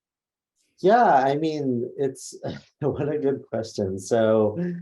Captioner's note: laughs